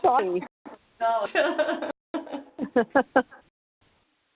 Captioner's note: laughs